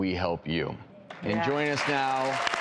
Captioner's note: audience applause